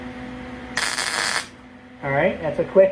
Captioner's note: buzzing